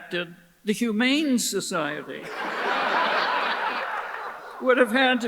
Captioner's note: audience laughs